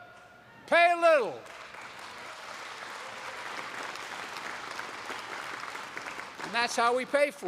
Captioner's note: applause